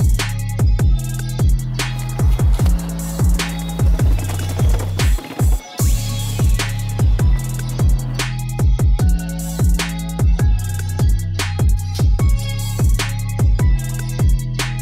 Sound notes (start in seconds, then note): 2.2 rubber bouncing; 8.0 hip hop music